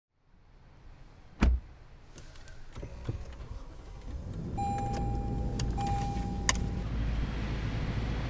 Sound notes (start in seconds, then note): 1.3 car door closes; 4.0 car beeps